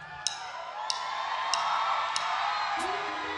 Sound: crowd cheering

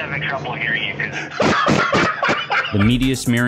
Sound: laughs

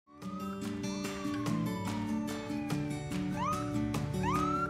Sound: police sirens whirring

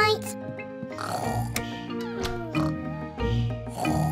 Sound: both snoring

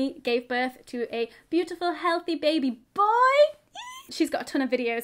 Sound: squeals

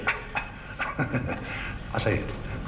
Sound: Tom laughs

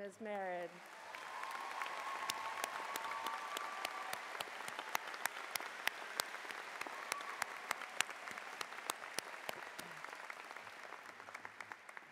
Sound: cheers and Applause

